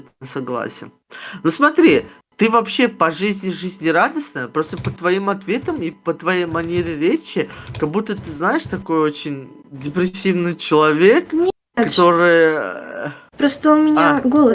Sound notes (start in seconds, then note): 2.1 turkish speaking